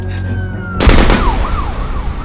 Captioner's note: sirens fading; burst of gunfire